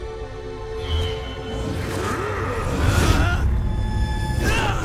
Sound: grunting

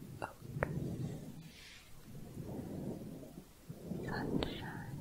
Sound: windy sounds

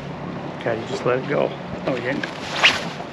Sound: fish splashing; rod whipping

